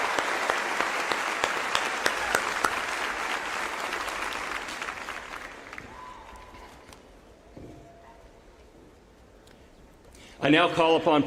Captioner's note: applause